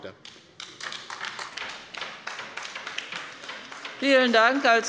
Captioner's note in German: Beifall bei der LINKEN